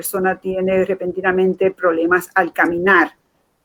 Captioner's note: speaking in Foreign Language